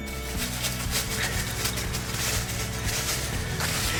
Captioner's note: leaves rustling